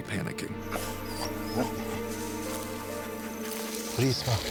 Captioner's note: dog panting